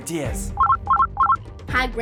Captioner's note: ringing